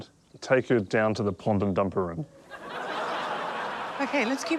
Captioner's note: audience laughs